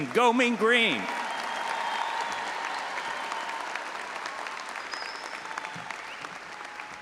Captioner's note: all applauding and audience cheering